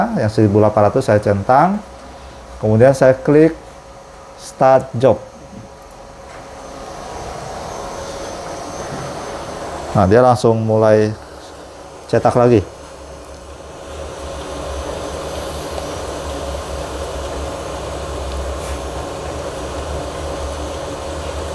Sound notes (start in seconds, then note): 5.5 clicking sound; 6.7 printer machine noise